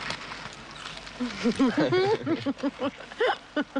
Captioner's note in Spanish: ella se ríe